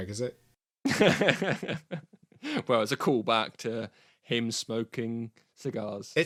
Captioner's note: laughs